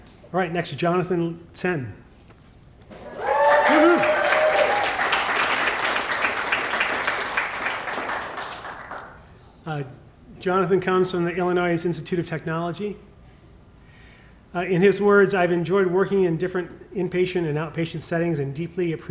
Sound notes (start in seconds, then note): 4.6 applause